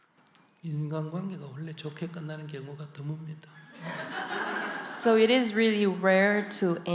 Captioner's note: audience Laughter